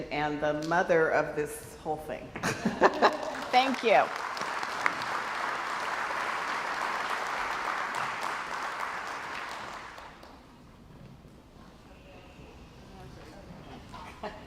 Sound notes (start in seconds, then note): 2.5 laughs; 2.9 crowd applauds